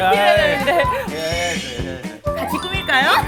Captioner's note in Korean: 스윽